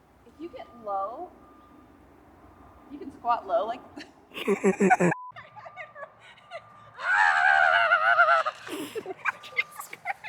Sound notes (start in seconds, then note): 4.3 both laughing